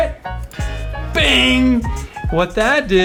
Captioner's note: metal clanks